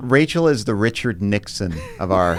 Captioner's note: laughing